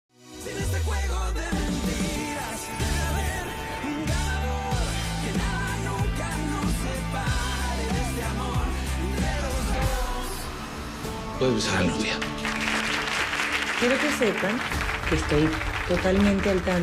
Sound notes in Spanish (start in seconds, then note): 12.1 Aplausos